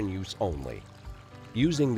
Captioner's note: water trickling